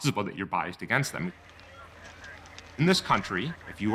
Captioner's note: radios running in background